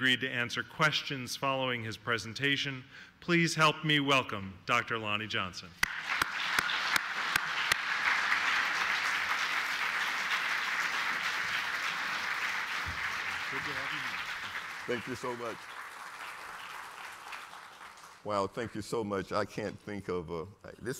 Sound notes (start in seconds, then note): 5.8 applause